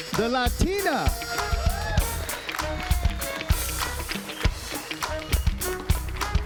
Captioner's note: audience cheering and applauding